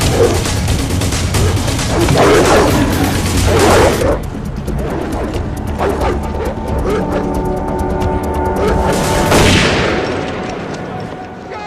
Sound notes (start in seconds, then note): 1.3 dog barking; 5.8 barking continues; 9.1 gunshot